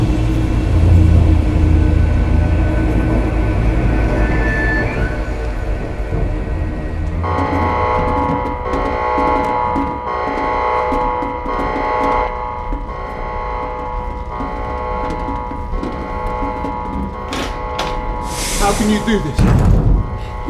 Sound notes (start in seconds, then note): 7.2 ревёт сирена